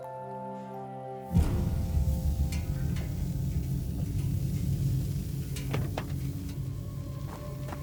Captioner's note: gentle music; intense music; car hissing